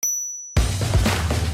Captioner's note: bell chimes; upbeat music